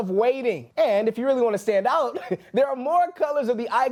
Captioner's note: laughs